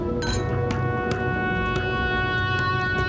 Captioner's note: people speaking foreign language; glasses clanking; dramatic music